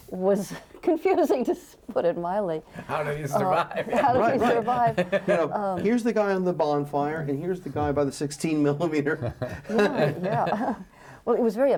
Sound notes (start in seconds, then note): 5.7 laughs